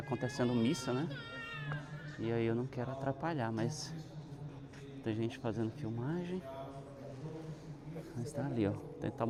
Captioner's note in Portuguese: choro